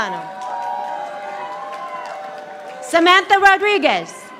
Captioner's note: audience applauding